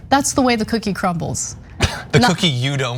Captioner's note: laugh